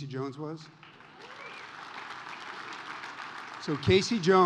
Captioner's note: audience applauds